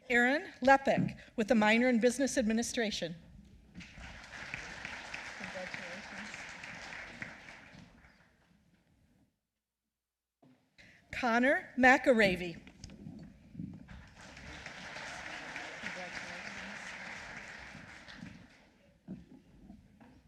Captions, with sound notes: Erin Leppek with a minor in business administration. (applause) Conor McAreavy. (applause)